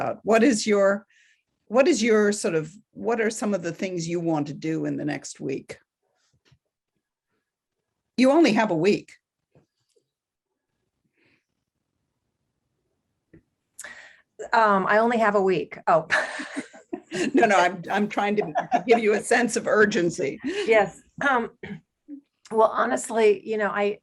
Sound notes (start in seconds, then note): 16.3 laugh